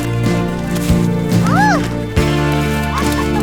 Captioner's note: squeals